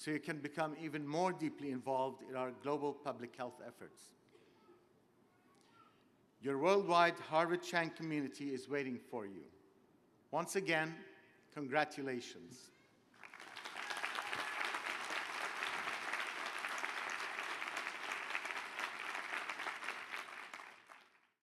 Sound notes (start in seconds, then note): 13.1 applause